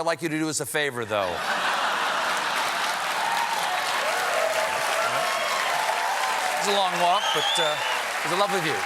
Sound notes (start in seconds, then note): 1.2 laughter; 1.7 applause